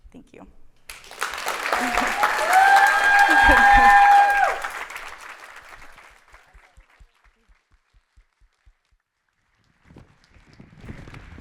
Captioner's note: clapping